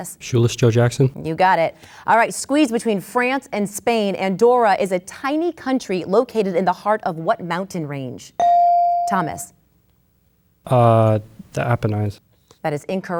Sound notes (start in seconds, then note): 8.4 bell dings